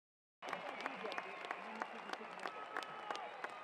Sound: cheering and applause

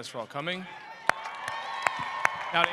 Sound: cheering

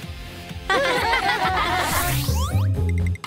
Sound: laughing

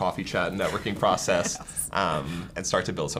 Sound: laughs

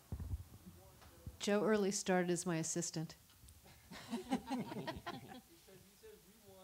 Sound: laughter

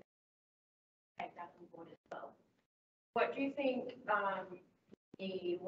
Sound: audio distorts

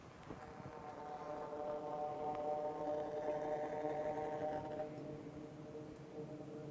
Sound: sound of flame through tube

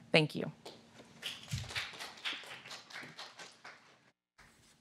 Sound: applause

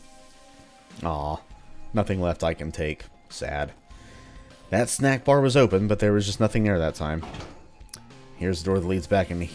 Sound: none

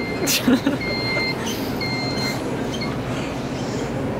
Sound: laughing; Scooter beeping

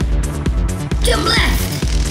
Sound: electricity crackling

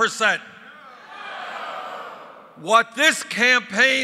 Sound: crowd yelling “No”

